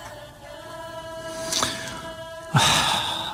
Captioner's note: Suspiro